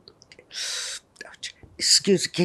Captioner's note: gasping